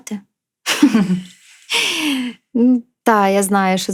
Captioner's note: laughter